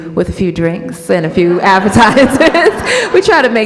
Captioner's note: audience laughs